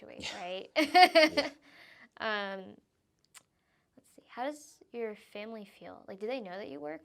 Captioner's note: laughing